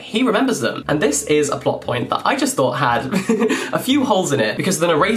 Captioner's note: laughs